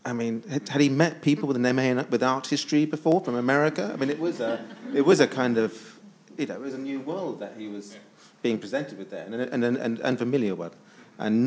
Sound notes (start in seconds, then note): 3.4 attendees laughs